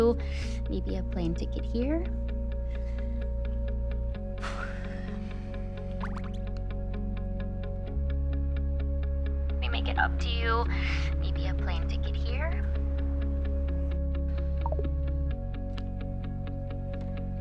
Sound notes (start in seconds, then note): 4.4 sighing; 5.7 cell phone popping; 14.3 cell phone popping